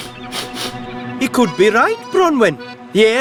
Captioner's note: sniffing